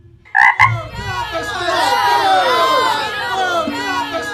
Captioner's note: crowd chattering